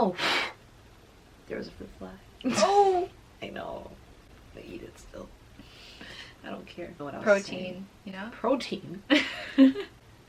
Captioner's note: blows on her apple